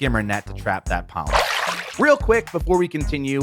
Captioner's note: water splashing